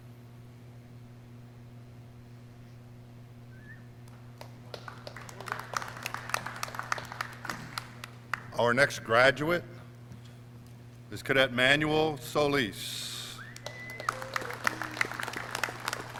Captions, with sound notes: (clapping) Our next graduate is Cadet Manuel Solis. (clapping)